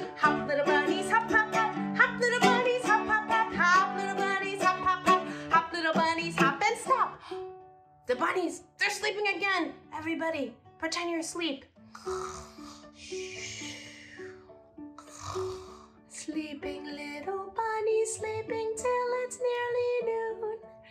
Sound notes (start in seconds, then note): 12.0 snoring sounds